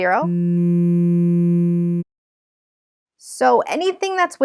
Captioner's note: electronic buzzing